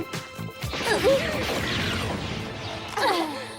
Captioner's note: gunfire